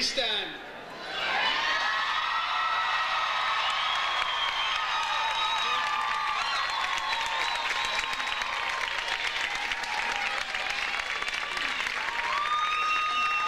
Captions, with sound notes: please stand? (audience cheers) (audience cheers) (audience applauds)